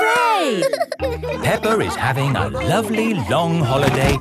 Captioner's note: all laughing